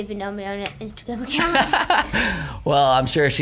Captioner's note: laughing